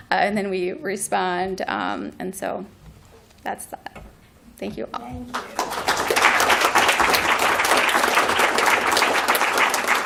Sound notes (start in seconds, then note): 5.3 applause